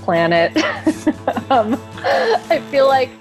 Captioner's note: Alison laughs